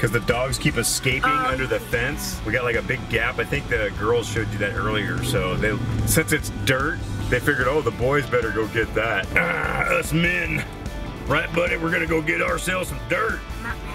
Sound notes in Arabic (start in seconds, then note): 9.1 الهدير